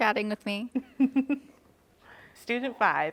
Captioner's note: laughs